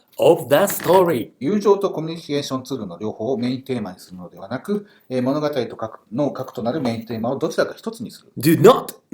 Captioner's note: speaking Japanese